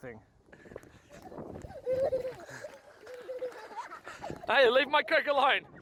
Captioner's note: laughing